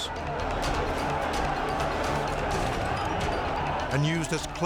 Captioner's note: group chattering angrily